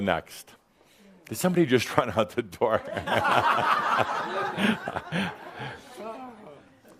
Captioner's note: more chuckles